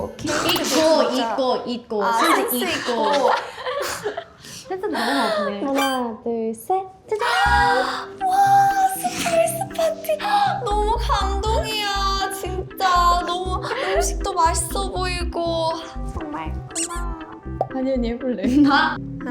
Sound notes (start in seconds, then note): 2.2 hahahaha; 2.2 makes herself laugh